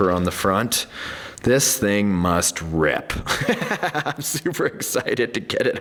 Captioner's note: laughing